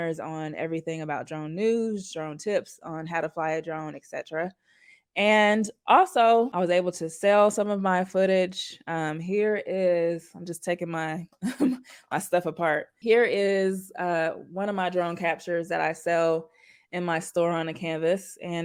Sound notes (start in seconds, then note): 10.9 chuckles